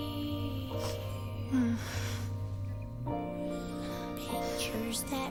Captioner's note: moans